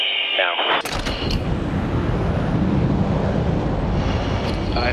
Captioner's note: jet whooshing